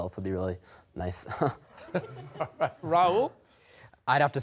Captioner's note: chuckles